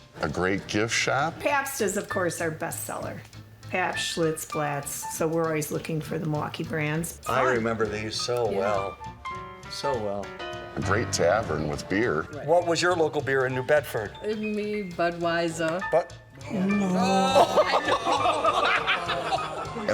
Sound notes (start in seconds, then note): 16.5 laughing; 16.8 crowd